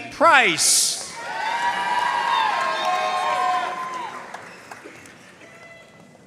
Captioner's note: audience cheering and applauding